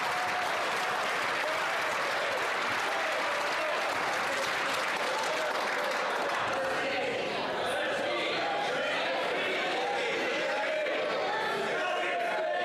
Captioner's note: some Applause